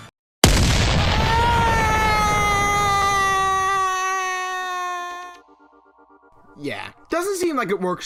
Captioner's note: The Recovery Cannon fires; Pearl Pen screams as she is launched who knows where